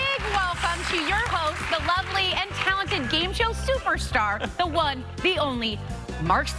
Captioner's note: cheers and applause